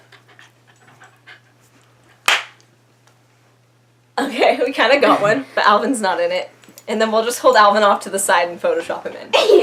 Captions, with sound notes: *claps* Okay, we kind of got one but Alvin's not in it and then we'll just hold Alvin off to the side and Photoshop him in